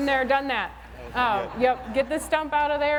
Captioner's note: laughter